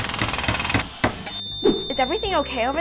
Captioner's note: devices whirring; ding